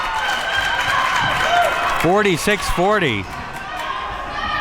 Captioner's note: crowd cheers